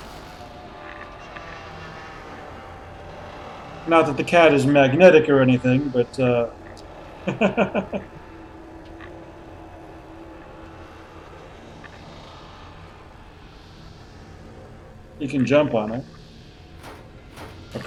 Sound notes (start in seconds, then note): 0.1 metallic creaking; 7.2 chuckles